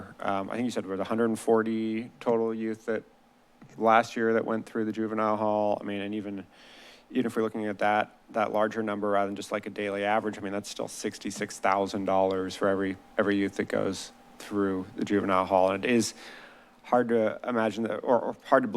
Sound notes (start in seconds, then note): none